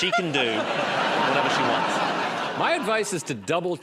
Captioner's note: laughter